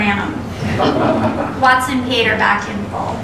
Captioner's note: laughter